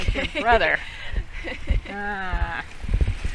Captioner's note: laughter